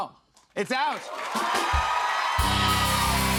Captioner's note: cheers and applause